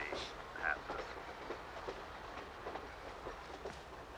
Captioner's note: train chugging over TV